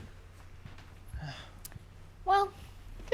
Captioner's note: sighs